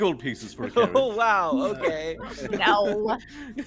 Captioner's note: laughs